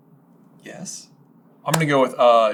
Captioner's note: quietly